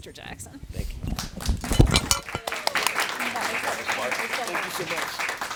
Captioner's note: audience applauding